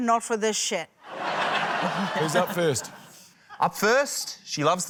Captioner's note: laughter